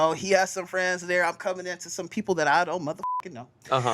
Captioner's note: beep